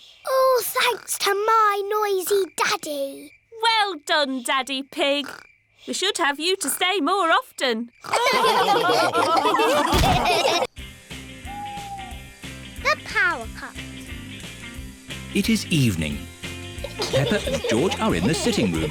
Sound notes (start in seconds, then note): 8.1 all laughing